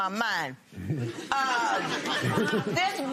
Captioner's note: laughter